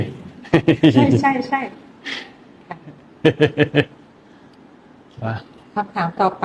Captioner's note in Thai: เสียงหัวเราะ